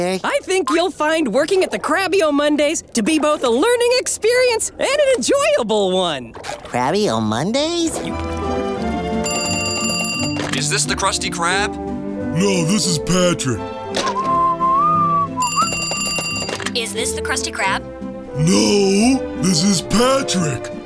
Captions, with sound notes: I think you'll find working at the Krabby O'Monday's to be both a learning experience and an enjoyable one! Krabby O'Monday's? [phone ringing] - Is this The Krusty Krab? - No, this is Patrick. [whistling] [phone ringing] - Is this The Krusty Krab? - No, this is Patrick!